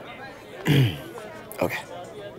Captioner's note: Clears throat